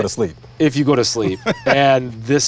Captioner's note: person laughs